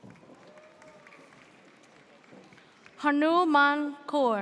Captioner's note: audience cheers